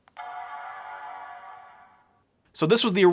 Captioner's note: computer startup sound